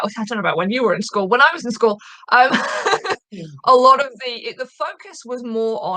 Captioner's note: chuckling